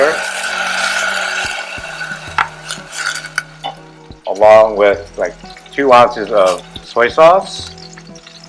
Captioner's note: vinegar sizzles, cup clatters